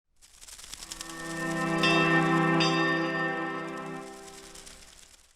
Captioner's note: wings fluttering, bell dinging